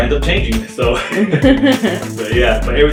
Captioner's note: laughing